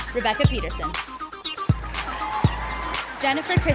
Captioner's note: sound of applause and cheering from the audience